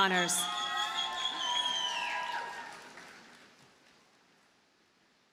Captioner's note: audience cheers and applauds